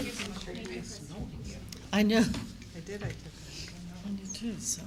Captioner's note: group talking